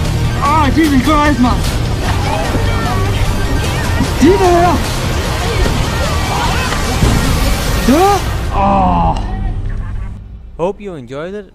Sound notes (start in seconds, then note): 0.4 instinctively chatter